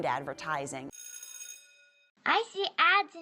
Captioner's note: buzzer rings